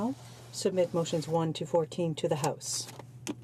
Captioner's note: speaking in French